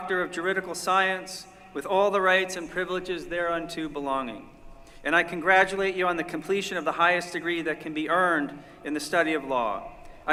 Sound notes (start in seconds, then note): none